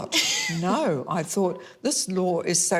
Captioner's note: laughs